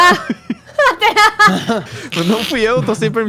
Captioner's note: laughter